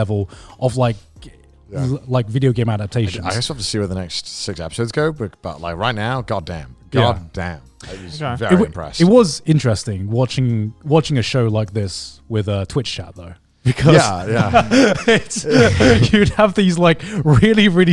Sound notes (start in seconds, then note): 13.6 laughing